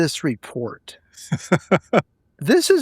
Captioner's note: laughing